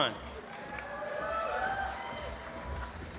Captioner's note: applause